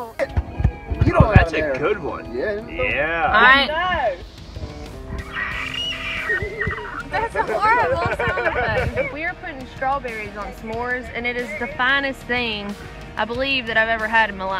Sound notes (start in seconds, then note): 5.1 pterodactyl shrieks